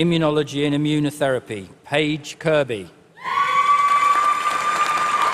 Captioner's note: applause